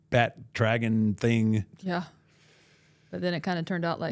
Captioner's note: none